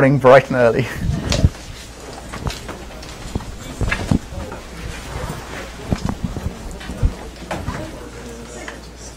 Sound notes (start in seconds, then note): 2.0 background chatter